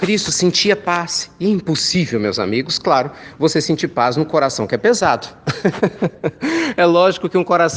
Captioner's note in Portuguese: risos